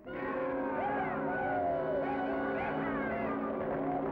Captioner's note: men shouting